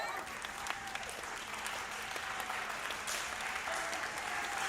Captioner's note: audience clapping